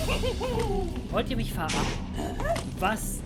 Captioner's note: explosion